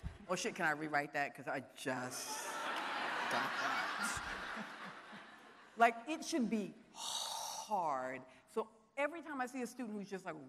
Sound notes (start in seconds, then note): 2.3 audience laughing